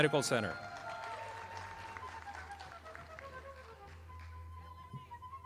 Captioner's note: audience applauding